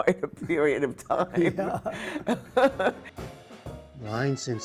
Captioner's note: laughter